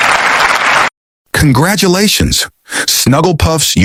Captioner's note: monkey applause